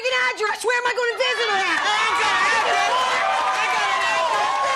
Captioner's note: audience screaming